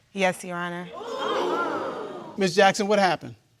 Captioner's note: audience exclaims